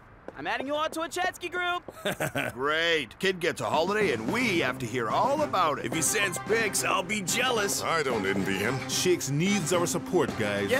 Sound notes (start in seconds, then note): 1.9 chuckling